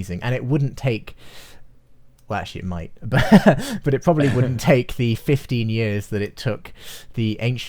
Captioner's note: both laugh